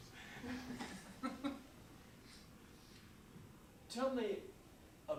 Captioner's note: audience laughing